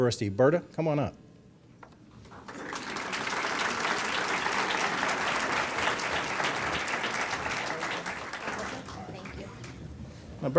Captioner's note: applause